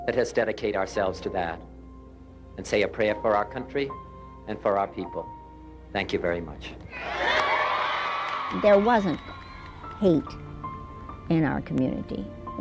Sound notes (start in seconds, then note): 6.8 crowd cheers